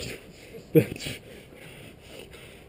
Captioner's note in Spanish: Riendo